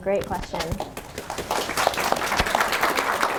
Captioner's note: applause